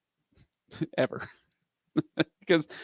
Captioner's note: laughs